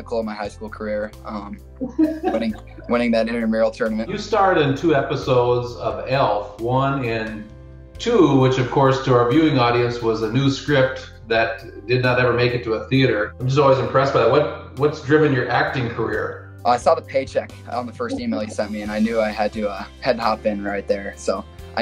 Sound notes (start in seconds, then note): 2.1 laughs